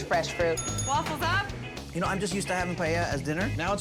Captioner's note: bell dings